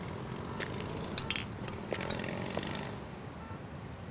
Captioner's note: ήχος μηχανής